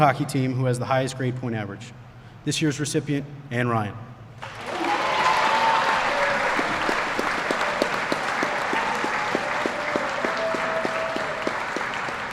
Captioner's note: applause